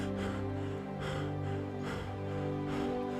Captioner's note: panting